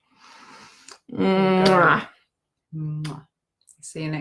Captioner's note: making kissing sounds